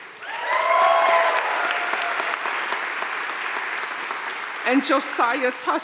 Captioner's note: audience cheering and applauding